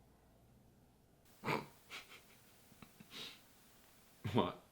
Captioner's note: laughs